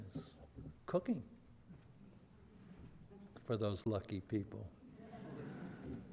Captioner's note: audience laughter